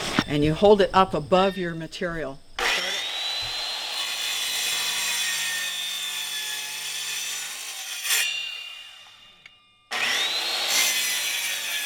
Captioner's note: saw whirrs